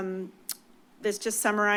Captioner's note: clicks tongue